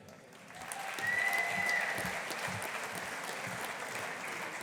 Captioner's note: audience applauding